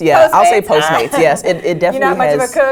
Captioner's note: laugh